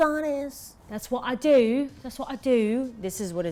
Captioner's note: speaks in English accent